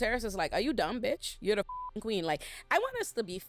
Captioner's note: beep